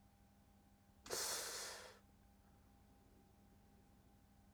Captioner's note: sighs